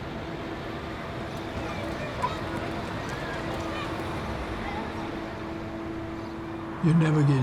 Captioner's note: children chattering indistinctly